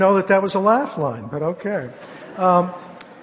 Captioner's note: laughter